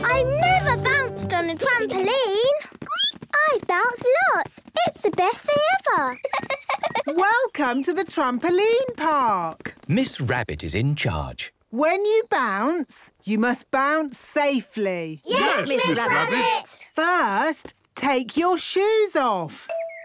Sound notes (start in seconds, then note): 3.1 squeaks; 6.2 giggles